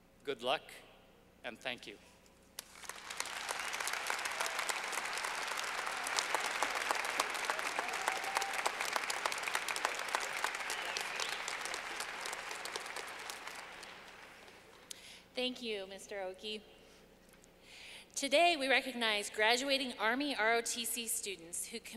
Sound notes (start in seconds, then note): 2.6 clapping